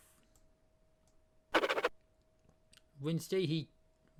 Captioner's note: scribbling sound